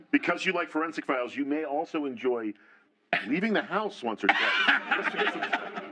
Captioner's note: laughter